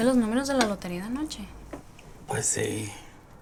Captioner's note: speaking spanish